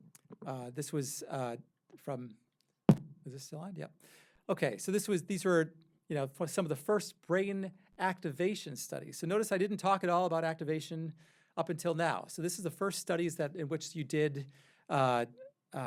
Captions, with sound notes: This was from (pounding on microphone) Is this still on? Yep. Okay, so these were some of the first brain activation studies. Notice I didn't talk at all about activation up until now. So this is the first studies in which you did,